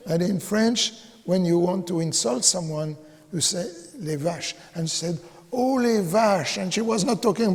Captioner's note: speaking in French